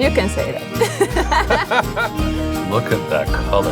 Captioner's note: both laughing